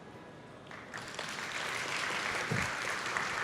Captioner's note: applause